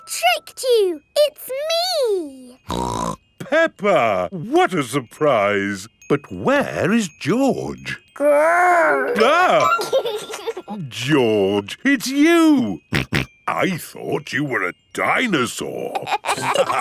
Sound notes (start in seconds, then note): 2.6 snorts; 8.7 giggles; 9.9 exclaims; 12.9 snorting; 15.9 all laughing